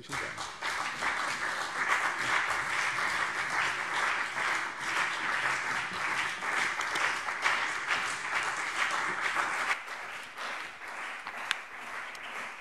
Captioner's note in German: Beifall CDU und BÜNDNIS 90/DIE GRÜNEN